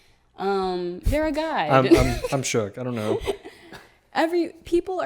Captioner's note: laughs